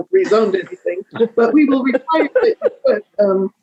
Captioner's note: laughing